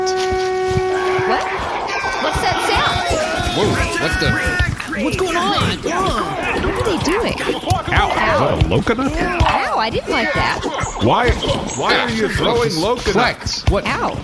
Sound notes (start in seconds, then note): 0.0 horn blowing; 4.0 shouting